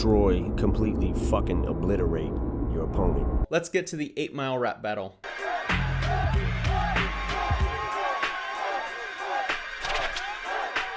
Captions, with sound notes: completely fuckin' obliterate your opponent. - Let's get to the 8 Mile rap battle. (bouncy music begins) - [Crowd] What, what.